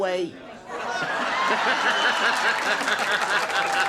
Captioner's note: laughs